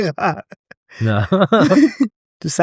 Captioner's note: laughs